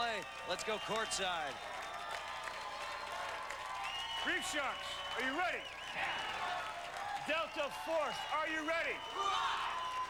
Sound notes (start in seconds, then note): 5.6 cheers; 8.9 cheers and applause